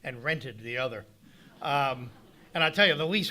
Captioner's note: audience laughing